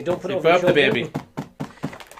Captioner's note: patting